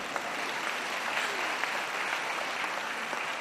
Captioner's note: applause